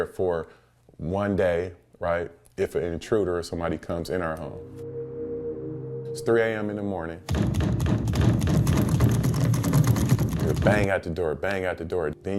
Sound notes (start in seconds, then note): 7.2 door banging